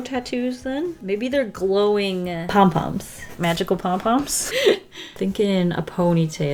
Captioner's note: chuckles